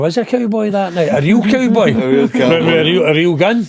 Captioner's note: laughing